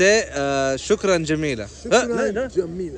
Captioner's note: Arabic